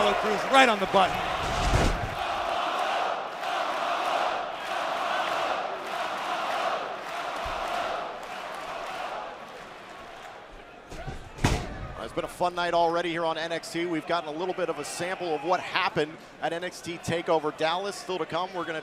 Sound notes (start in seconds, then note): 1.8 fans chanting